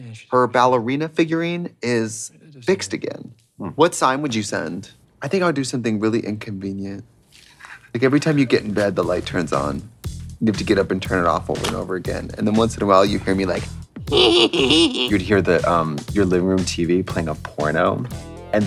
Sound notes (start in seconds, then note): 7.3 Katya rasping; 10.6 bouncy upbeat music; 14.1 creepy giggle